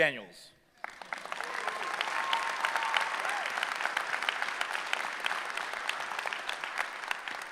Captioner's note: applause